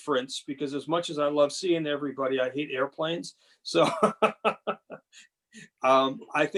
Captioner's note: laughing